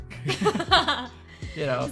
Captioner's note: laughing